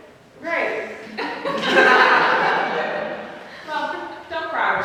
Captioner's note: laughs; audience laughs